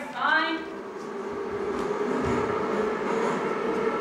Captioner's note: underground subway sounds